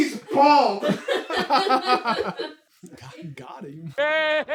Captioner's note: team laughter